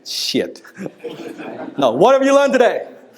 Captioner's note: laughter